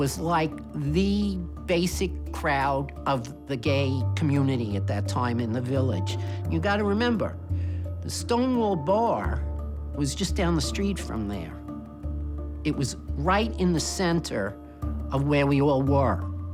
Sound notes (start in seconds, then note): none